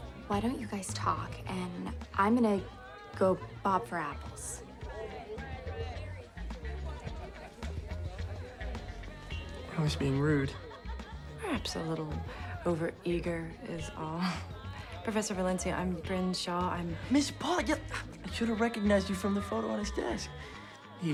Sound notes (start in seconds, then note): 5.8 groovy music; 5.8 people chattering